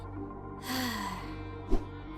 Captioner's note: sigh